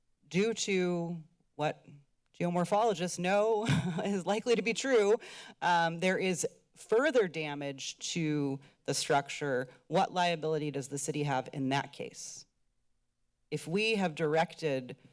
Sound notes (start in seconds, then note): 3.6 chuckles